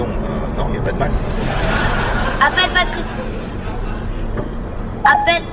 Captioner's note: audience laughter